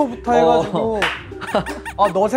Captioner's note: laughing